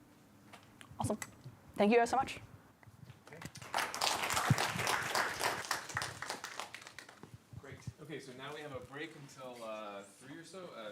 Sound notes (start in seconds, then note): 3.3 applause